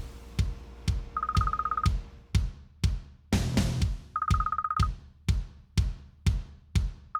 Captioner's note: timbre de teléfono